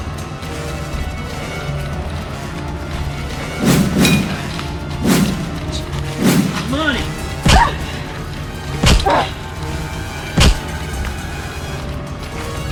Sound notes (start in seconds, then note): 3.6 weapons whooshing; 7.5 weapons thuds; 9.0 Shana grunts